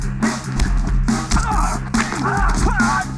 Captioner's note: yells